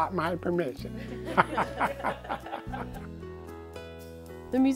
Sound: laughing

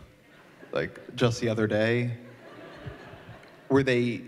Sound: laughter

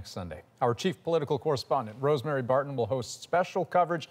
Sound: none

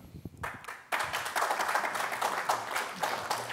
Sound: applause

